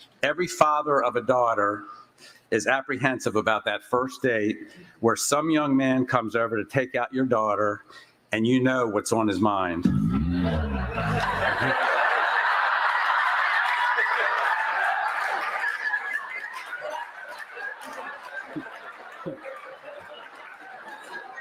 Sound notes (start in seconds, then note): 9.9 laughter